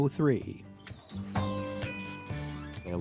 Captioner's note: bell ringing